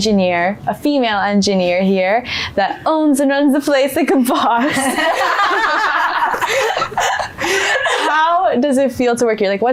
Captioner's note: laughs